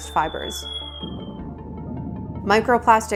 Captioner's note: soft banging sound